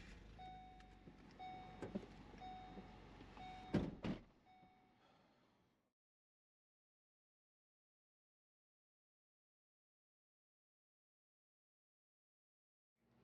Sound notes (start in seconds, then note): 3.6 doors shut; 8.4 silence